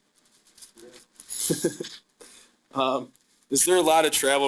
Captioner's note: chuckling